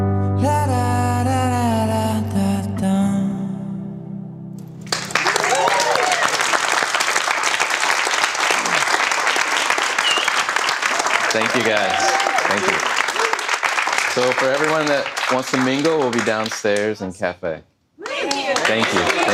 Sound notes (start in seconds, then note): 5.1 audience applause